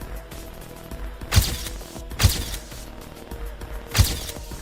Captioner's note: camera shutters